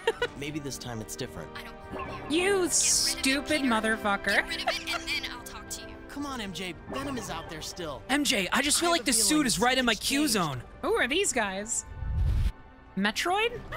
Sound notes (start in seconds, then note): 4.3 laughing